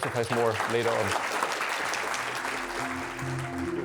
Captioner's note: audience applauding; gentle electronic music